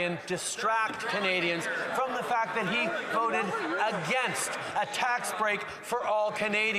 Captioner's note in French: voix de l'interprète